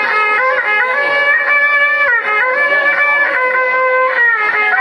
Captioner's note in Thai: ปรบมือ